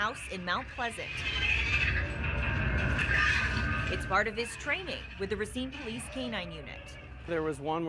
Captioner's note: spooky sound